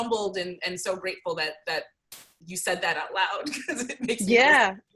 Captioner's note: laughs